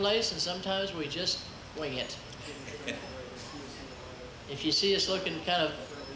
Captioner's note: chuckles